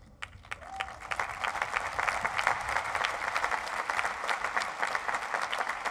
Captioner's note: crowd applauds